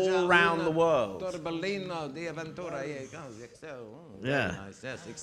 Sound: speaking in a foreign language

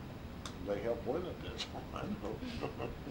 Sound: laughs

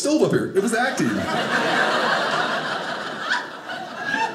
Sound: audience laughing

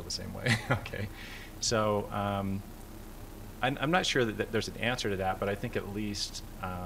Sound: laughter

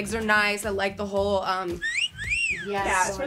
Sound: wolf whistle

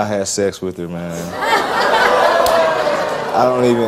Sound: audience jeers

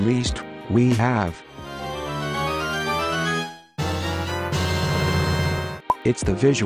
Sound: zelda open chest sfx

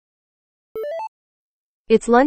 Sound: notification sound

